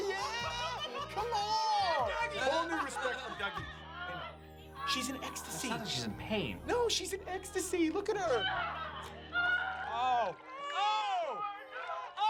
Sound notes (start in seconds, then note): 4.7 laughing; 8.8 screams